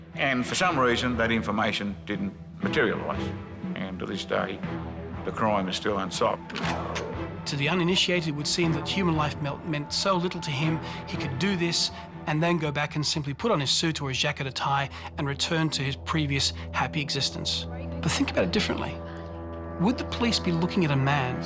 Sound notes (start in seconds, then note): 6.5 gun cocks